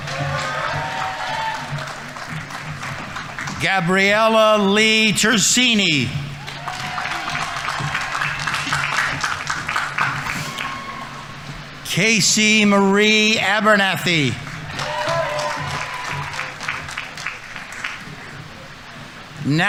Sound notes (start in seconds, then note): 0.1 audience applauding; 0.1 audience members cheering; 6.4 audience applauding; 6.4 audience members cheering; 14.9 audience applauding; 14.9 audience members cheering